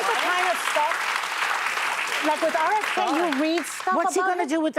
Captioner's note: applause